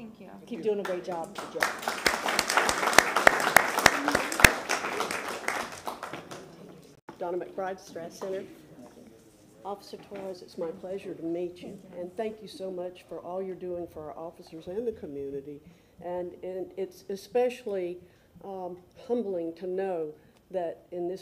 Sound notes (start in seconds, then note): 5.9 applause